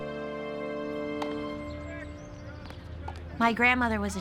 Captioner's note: man calling in background